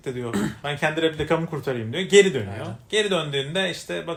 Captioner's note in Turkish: boğazını temizler